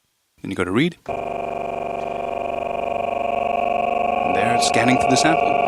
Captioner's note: sound sample stuttering